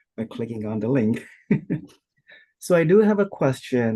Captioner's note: laughing